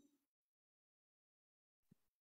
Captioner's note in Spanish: silencio